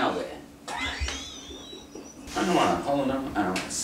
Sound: all laughing

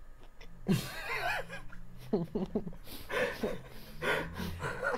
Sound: laughs

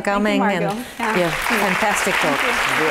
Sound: applause

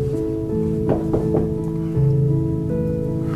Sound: knocking

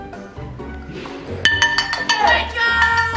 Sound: spoon clanging

